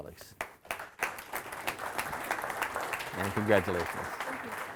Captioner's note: audience applauding